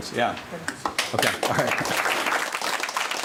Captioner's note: applause